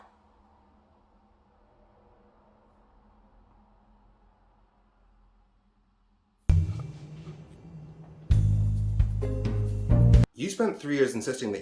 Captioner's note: awkward silence